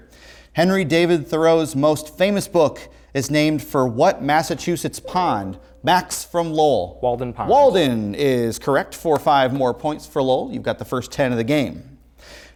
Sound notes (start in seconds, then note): 5.0 ringing